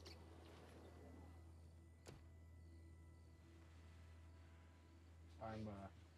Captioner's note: crickets chirping